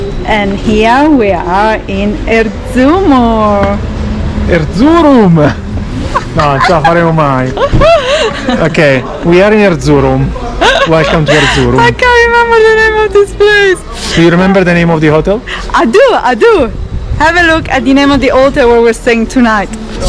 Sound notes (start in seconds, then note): 6.1 laughs; 6.5 speaking Italian; 13.6 laughing